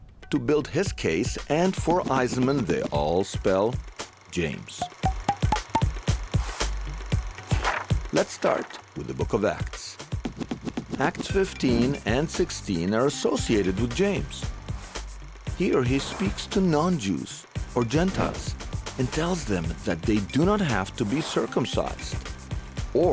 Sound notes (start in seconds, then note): 4.8 rustling; 4.8 playful music